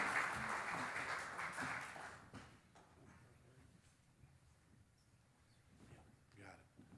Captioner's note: audience applauding; whispering